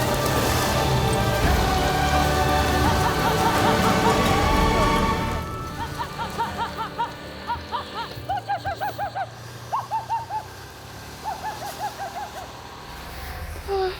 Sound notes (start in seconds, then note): 5.7 shouting